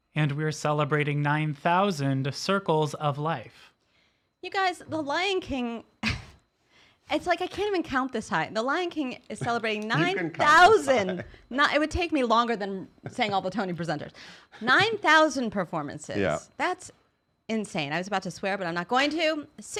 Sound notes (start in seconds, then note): 6.4 chuckling; 9.3 laughing